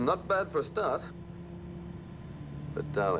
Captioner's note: car engine running